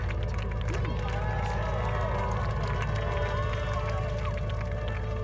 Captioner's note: applauding